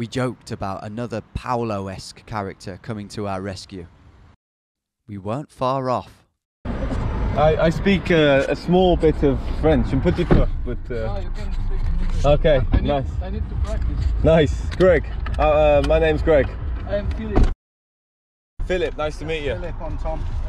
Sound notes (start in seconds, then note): 9.9 speaking in a foreign language